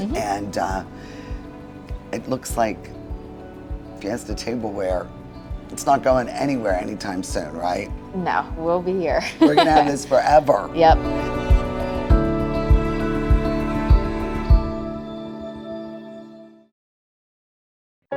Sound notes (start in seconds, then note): 9.2 laughs; 12.2 upbeat lighthearted music